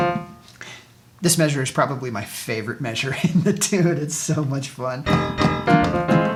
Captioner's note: laughing